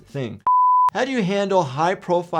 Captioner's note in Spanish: pitido en pantalla